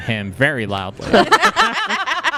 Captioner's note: laughter